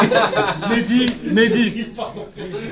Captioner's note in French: rires